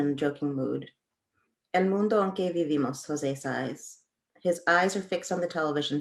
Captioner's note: speaking Spanish